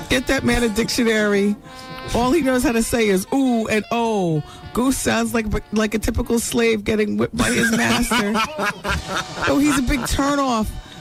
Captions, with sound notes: Get that man a dictionary. All he knows how to say is ooh and oh. Goose sounds like a typical slave getting whipped by his master. (laughing) Oh, he's a big turn off.